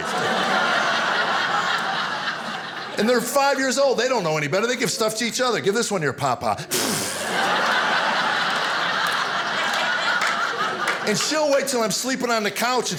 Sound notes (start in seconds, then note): 0.0 audience laughing; 6.6 audience laughing; 6.7 blows raspberry